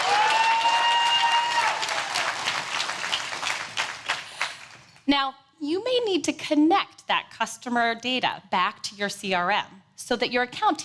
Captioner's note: applause